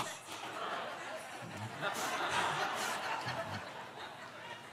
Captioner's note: laughter